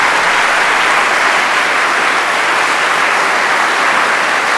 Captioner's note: applause